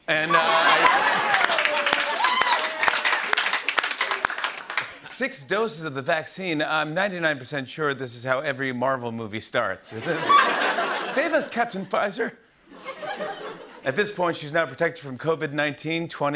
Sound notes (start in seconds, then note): 0.1 laughter and applause; 12.7 laughter